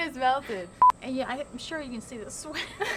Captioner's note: beeping